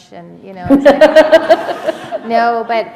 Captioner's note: laughter